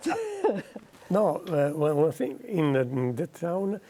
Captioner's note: laughter